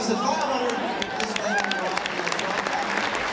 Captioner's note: applauding